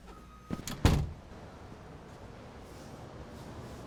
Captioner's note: door clicks